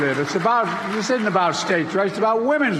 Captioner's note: applause